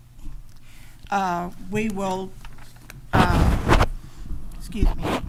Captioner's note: microphone feedback